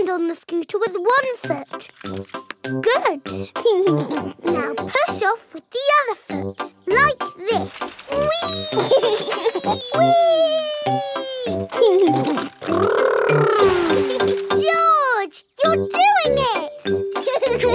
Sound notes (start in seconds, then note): 3.8 chuckles; 8.2 laughs; 17.2 george laughing